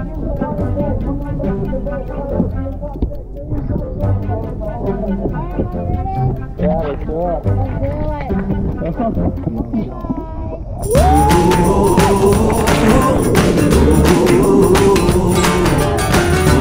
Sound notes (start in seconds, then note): 0.2 playful music; 9.8 giggles